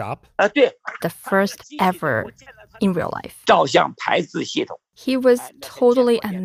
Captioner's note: speaking Mandarin